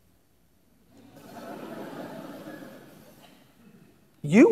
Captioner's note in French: Rires